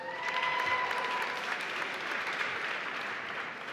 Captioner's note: applause